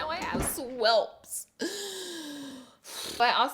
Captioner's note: sigh